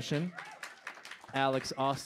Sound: aplausos; applause

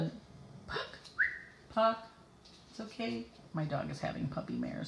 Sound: whistles

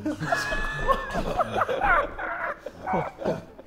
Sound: Sidemen laughing

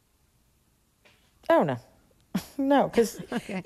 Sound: laughter

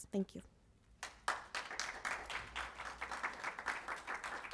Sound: applause

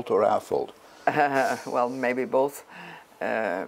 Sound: laugh

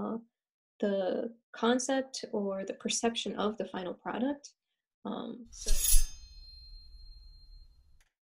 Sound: slice sound effect

